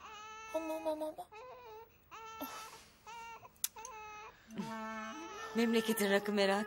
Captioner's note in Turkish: bebek ağlama sesi̇